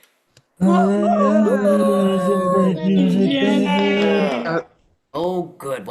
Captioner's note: cheering